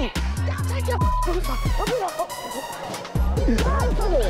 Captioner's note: beep